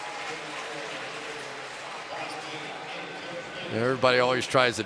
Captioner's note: pa announcement